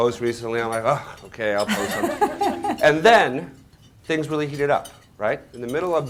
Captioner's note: laughter